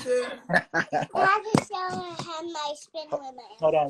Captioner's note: laughing